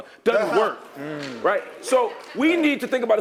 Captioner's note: laugh; applause